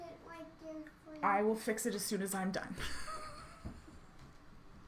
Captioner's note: laughs